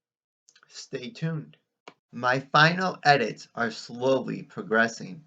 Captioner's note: click